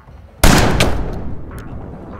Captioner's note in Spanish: Disparo